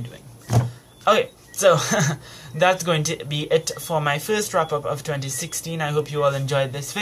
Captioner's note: chuckles